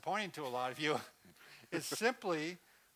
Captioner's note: laughing